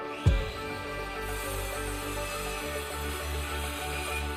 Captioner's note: saw whirring